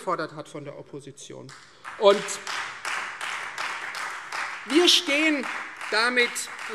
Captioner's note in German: Beifall Freie Demokraten und SPD